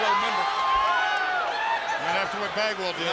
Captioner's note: crowd cheering